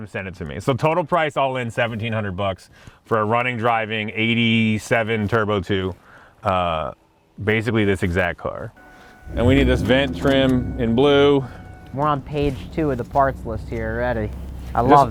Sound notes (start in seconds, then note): 8.8 car beeping; 8.8 engine revving